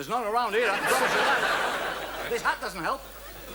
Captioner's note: audience laughs